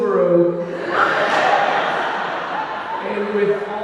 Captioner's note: audience laughing